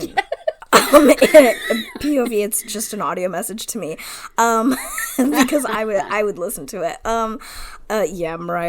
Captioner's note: laughs